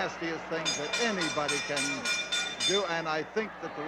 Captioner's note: bell ringing